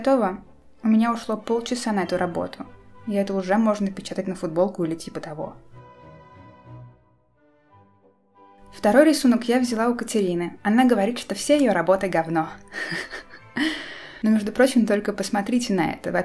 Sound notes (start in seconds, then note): 12.7 haha